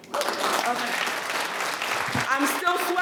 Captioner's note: attendees applauding